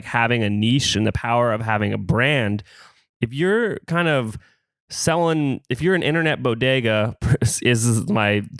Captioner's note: laughs